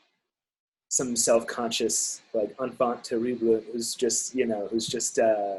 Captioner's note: speaking in foreign language